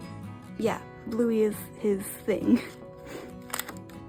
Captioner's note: laughs